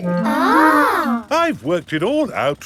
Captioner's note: children gasp in awe